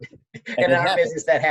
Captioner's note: laughing